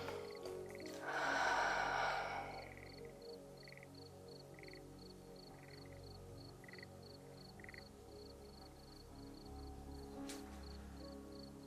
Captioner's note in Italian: sospiri